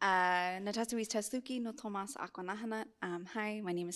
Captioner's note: non-english speech